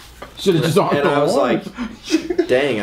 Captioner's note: laughs loudly